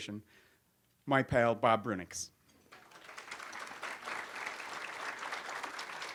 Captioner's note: audience applauds